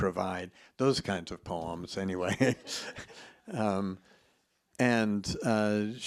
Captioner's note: chuckles